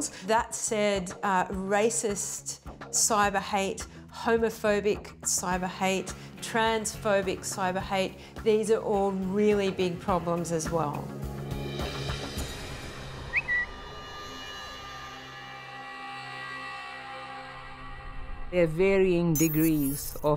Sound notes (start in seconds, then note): 13.3 notification chirp; 13.3 ominous music